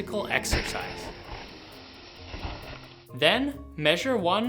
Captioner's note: crashing